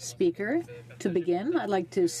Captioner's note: speaking French